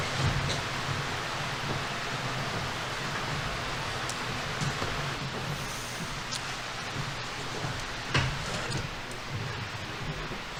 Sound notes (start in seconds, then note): none